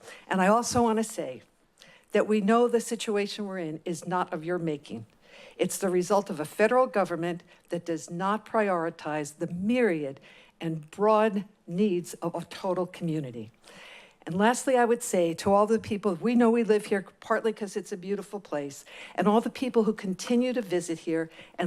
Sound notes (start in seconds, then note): none